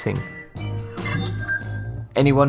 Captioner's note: sharp chiming